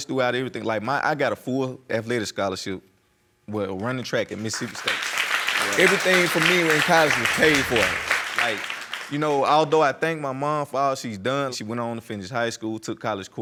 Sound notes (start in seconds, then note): 4.3 applause